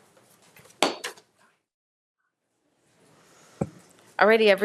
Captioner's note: gavel thumping